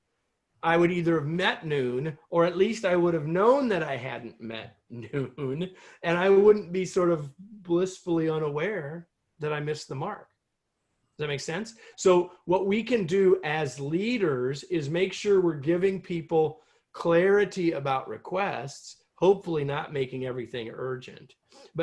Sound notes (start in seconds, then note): 4.9 laughter